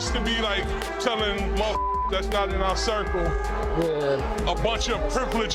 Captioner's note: beep